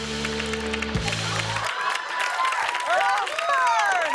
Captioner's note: cheers and applause